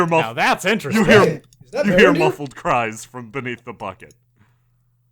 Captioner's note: you hear- hear muffled cries from beneath the bucket